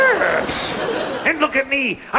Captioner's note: audience laughs